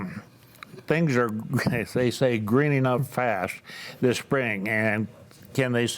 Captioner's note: chuckles